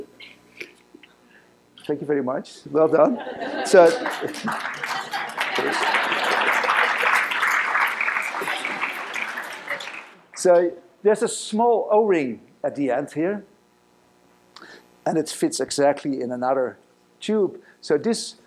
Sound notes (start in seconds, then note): 3.7 applause